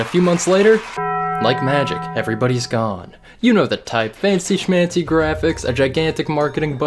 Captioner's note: cheering; death toll bell